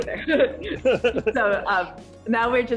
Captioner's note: everyone laughs